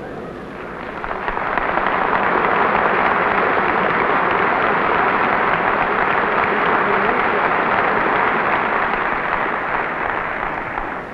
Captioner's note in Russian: аплодисменты